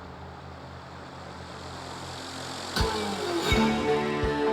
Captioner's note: engine purring